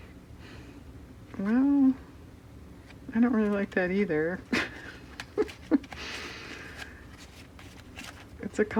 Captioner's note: laughs